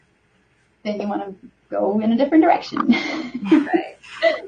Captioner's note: laughs